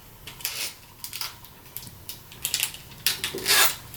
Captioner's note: plastic crackling